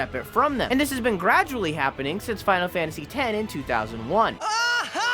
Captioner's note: tidus laughs